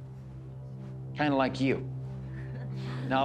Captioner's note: chuckling